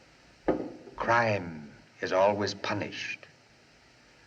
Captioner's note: dramatic Intonation